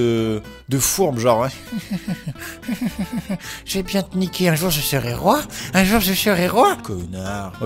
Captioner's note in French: rires machiavéliques